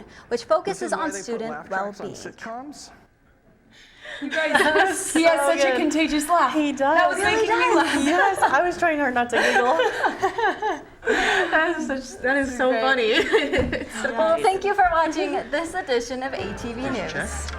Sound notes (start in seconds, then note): 10.6 all laughing